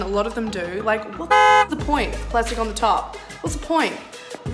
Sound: horn

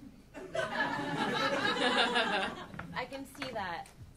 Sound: audience laughing

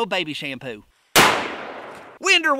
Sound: gun fires

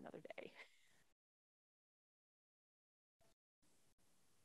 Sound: chuckles

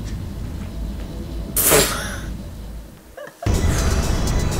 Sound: laughs

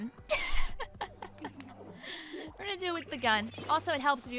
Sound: laughs

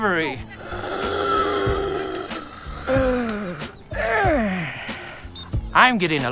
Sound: wheezing

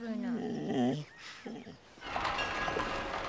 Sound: dog whines

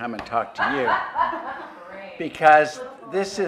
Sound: laugh

